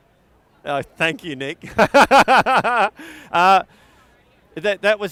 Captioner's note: laughs cheerfully